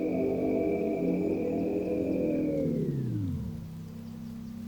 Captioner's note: birds chirping